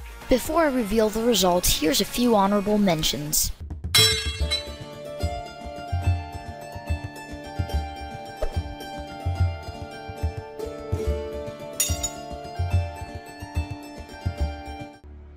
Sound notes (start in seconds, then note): 4.0 sword cling; 11.8 sword cling